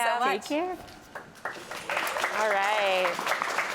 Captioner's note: applause